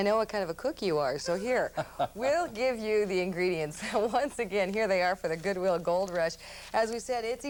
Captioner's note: laughing